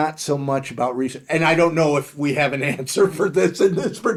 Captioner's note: laughing